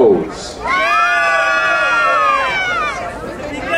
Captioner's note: crowd cheering